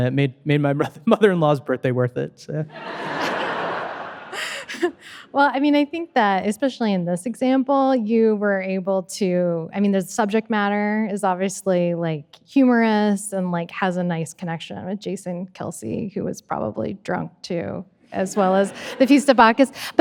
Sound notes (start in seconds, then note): 5.3 audience laughing